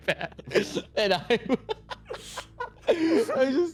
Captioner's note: laughing